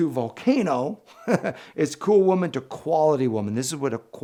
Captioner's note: chuckles